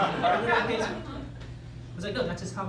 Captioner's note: laughter